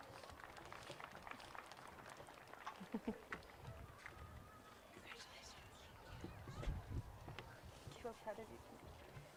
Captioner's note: applause